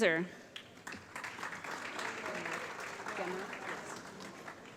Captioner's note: applause